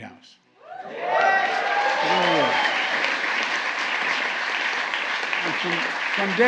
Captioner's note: applause